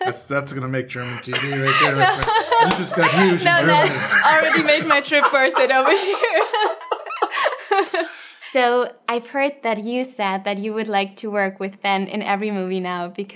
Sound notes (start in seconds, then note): 0.0 laughter; 6.4 laughter